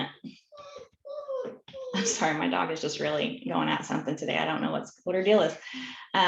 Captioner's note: dog whimpering